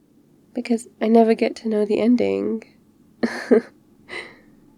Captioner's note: laughs